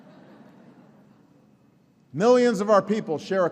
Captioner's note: laughter